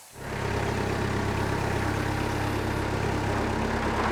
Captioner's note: engine buzzing